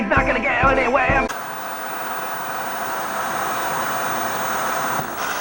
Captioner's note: TV Static